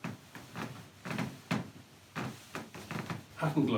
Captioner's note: floor boards creak